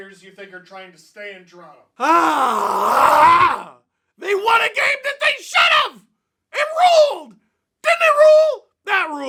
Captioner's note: deep loud breath